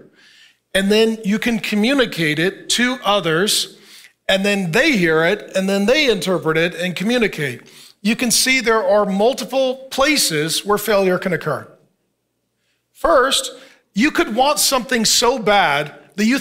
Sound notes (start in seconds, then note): none